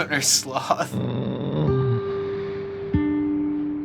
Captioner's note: sloth groans